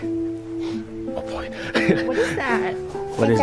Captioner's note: giggles